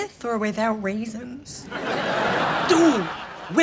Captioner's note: laughs